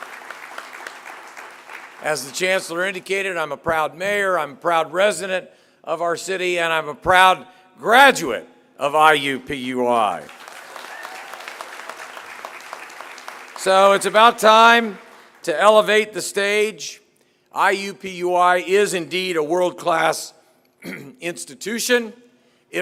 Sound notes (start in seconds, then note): 10.1 applause